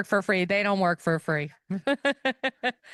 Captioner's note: laughter